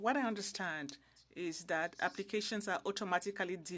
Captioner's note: speaking French